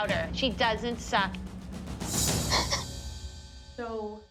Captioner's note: sobs